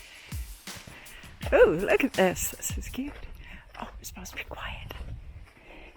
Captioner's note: whispering